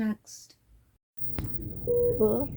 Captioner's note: heart monitor beeping in background